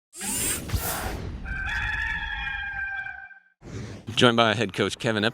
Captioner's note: logo whooshing; cock crows